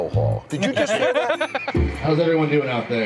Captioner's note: laughs